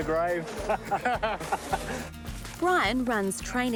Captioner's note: both laugh